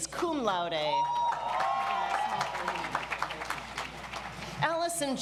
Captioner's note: audience applauds